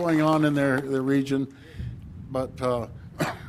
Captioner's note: applause